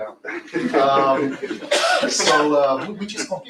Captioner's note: laughter